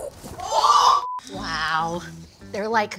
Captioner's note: high-pitched tone